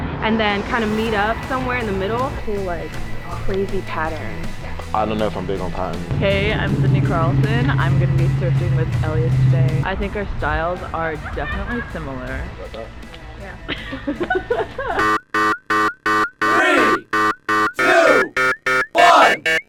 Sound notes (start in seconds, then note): 13.9 laughing; 15.0 alarm blaring increasing in frequency